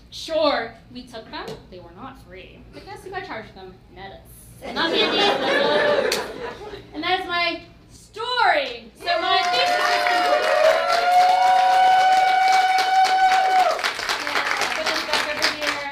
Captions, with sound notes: Sure, we took them; they were not free. But I guess if they charge them, not us... (laughing) And that's my story. So my thesis is complete! (cheering)